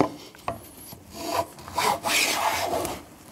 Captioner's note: grinding noises